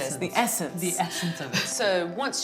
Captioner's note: laughs